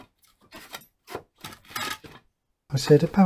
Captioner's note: wood being moved noises